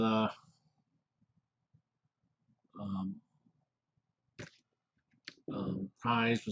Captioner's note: pause